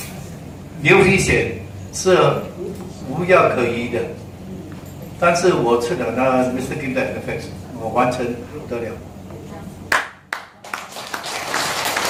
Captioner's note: raised Hand & Claps